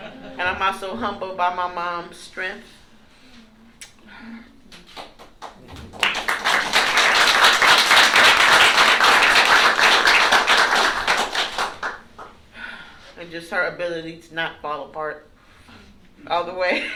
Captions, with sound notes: And I'm also humbled by my mom's strength-- [APPLAUSE] --and just her ability to not fall apart all the way.